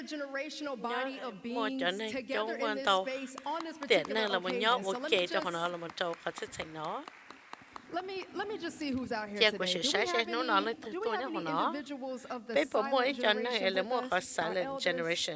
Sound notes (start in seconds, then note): 7.7 applause